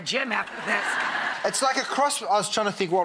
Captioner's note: audience laughs